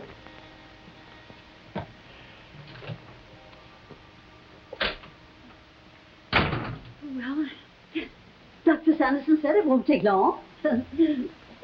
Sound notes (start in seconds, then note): 6.3 door slamming